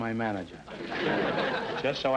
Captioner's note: audience laughter